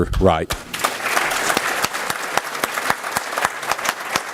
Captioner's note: applause